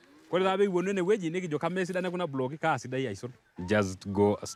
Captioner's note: speaking in foreign language